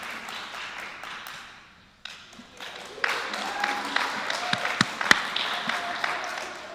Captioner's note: applause